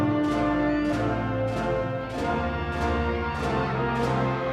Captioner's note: crowd cheering